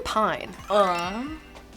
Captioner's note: chimes ringing